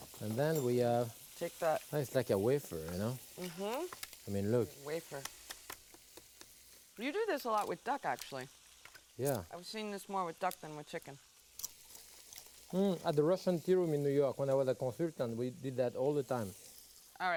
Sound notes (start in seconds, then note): 5.8 chicken skin tapping; 9.6 chicken skin crunching